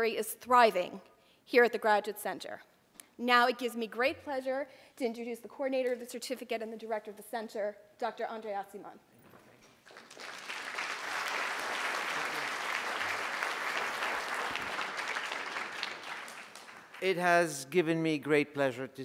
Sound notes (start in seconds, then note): 9.8 audience applause